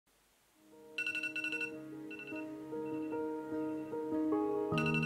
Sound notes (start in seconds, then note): 1.0 alarm beeps; 2.2 pensive music